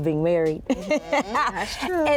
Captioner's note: laughs